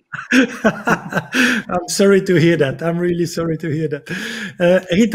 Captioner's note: laughing